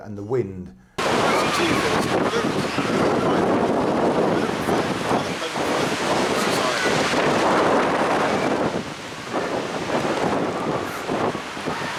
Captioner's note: wind noise